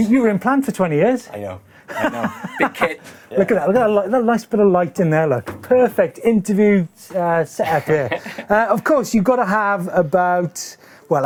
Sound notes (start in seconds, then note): 3.7 laughter Emitting